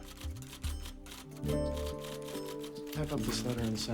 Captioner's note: typing